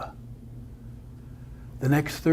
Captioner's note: none